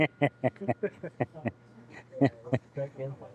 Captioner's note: laughter